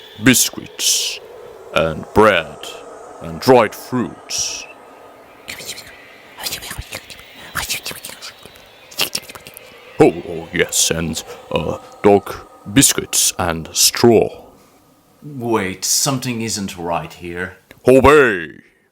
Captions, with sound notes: biscuits and bread and dried fruits *whispers* Oh..oh yes... and... ah... dog biscuits and straw wait... something isn't right here... OBEY!